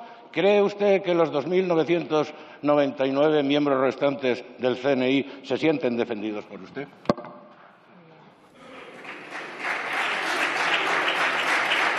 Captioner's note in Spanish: Aplausos